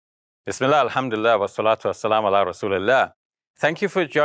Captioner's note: speaking in foreign language